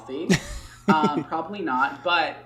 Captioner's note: laughs